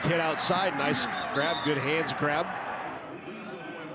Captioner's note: referee blows whistle